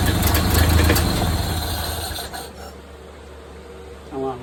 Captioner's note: engine idling; turns off ignition and engine stops